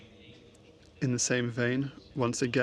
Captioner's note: speaking french